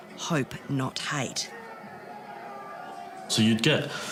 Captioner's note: protesters yelling